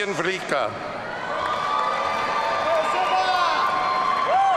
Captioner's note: audience cheering